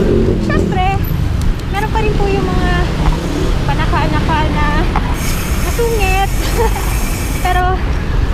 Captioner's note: laughs